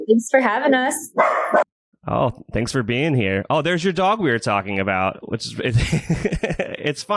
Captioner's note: laughs